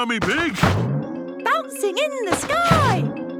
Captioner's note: snorts